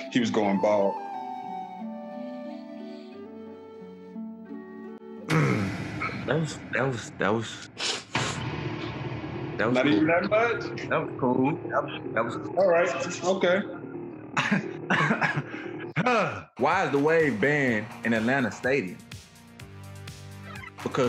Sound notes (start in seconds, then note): 2.2 whimsical music; 7.7 loud boom echoing; 14.3 coughing